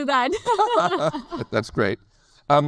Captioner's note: laugh